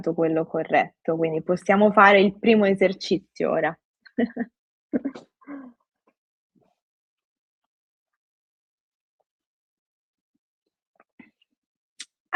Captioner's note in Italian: risate